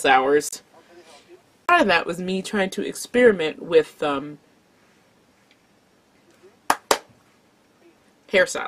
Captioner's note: claps twice to remember the word